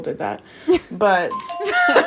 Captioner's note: bingbong